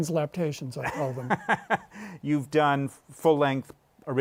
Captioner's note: laughs